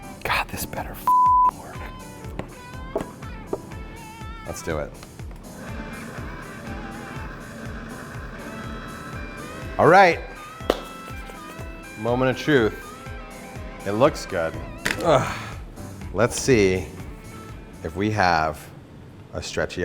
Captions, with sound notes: God this better (beep) work. Let's do it. (blending noise) All right, moment of truth. It looks good. (grunting) Let's see if we have a stretchy ice cream.